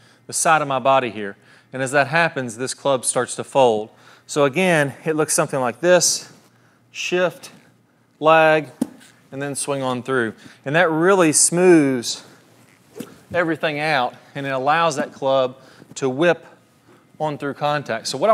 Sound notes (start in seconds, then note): 12.1 golf club swishes